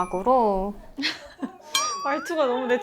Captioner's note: hahahaha